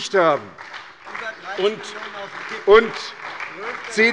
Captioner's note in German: Beifall bei der SPD